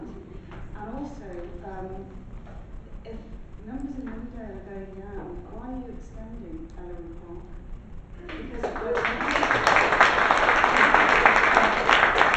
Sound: applause

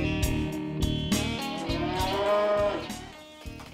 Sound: loud mooing

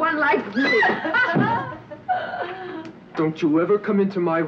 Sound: Petronella squealing

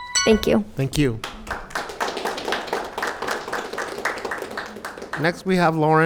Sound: bell rings; audience claps

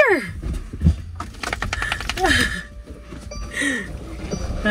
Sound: tail thwacking

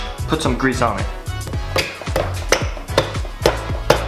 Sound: banging

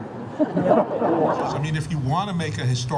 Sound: audience laughs

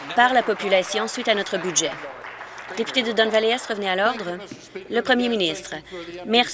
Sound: applause

